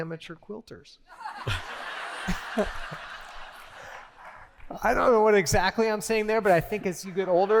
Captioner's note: laughter